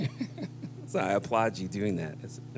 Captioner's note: laughter